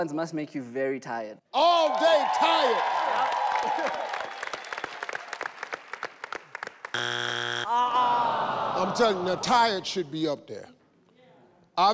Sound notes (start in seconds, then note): 3.3 people applauding; 7.9 people gasping